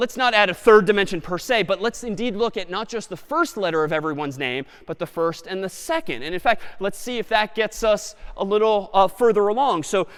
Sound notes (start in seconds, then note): none